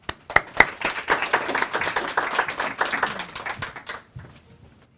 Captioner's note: audience applauds